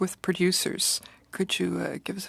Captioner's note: speaking in french